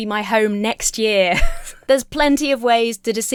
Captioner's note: chuckles